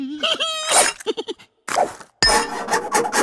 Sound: laughter; silly Noises

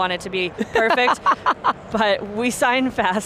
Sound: laughs

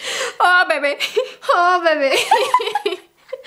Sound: giggles

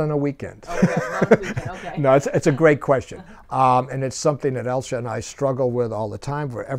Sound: laughs

